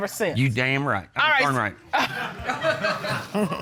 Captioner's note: chuckles